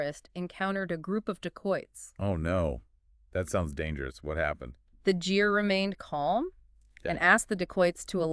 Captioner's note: jeer; jeer